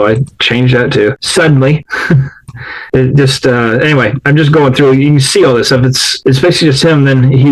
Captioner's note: laughs